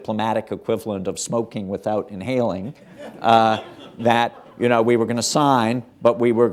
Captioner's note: laughter